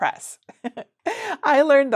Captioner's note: chuckles